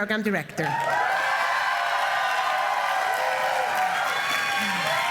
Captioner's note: applause